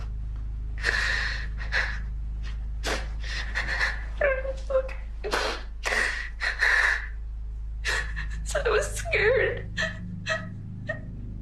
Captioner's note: crying